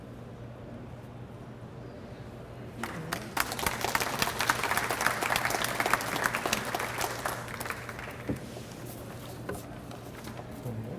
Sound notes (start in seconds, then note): 2.8 audience applauds